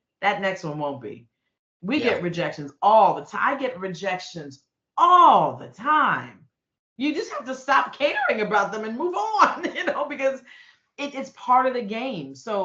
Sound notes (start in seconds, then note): 9.4 laughing